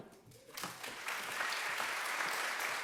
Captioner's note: applause